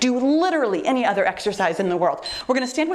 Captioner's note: timer beeps